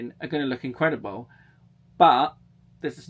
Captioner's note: none